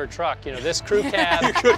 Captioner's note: laughing